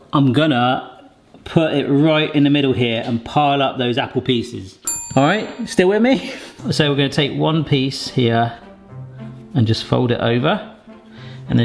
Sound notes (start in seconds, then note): 4.8 bell pings